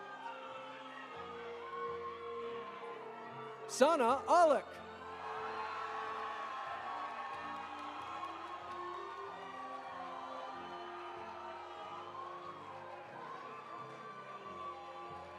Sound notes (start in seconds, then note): 4.8 audience applauding; 4.8 audience cheering